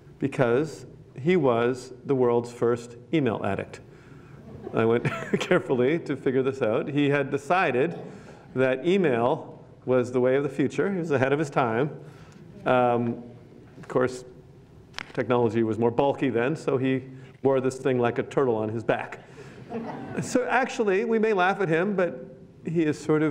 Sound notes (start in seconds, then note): 4.4 laughs; 19.6 laughter